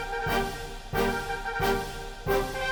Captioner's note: none